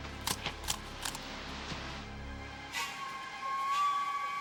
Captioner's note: grass rustling